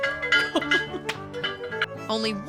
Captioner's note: laughing